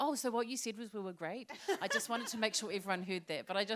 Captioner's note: laughter